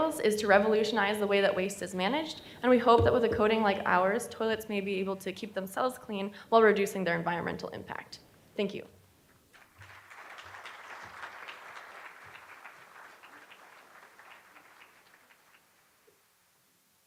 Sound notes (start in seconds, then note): 9.5 applauding